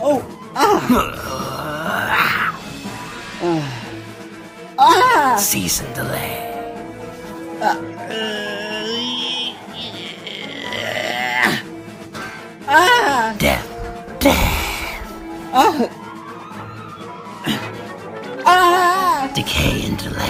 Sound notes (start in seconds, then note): 0.2 dethmetal growls; 2.8 Fuu2 sighs